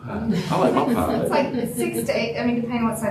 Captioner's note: laughter